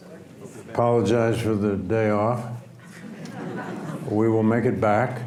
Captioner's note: audience laughs